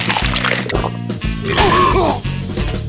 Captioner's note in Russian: кричит перед смертью; отрыжка